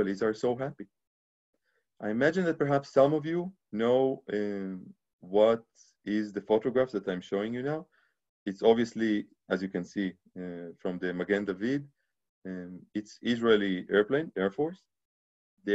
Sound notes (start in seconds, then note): 11.2 speaking Hebrew